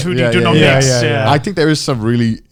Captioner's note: affirmative murmuring